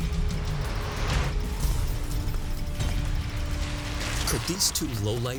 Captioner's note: tires scraping